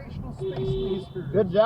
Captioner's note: beep beep!